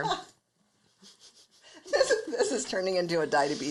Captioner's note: laughs